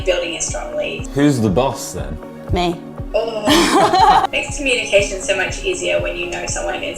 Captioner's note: laughs